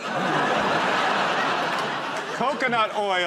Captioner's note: laughter